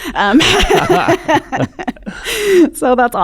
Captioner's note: laughs